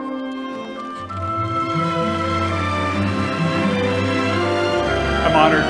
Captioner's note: audience applauding